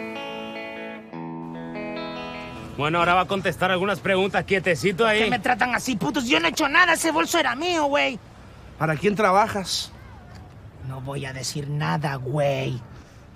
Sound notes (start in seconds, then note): 2.7 mexican accent